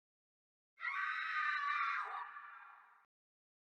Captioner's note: blood curdling shriek